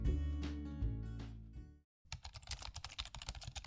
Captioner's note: keyboard noise